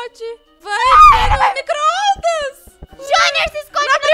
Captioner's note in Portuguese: grita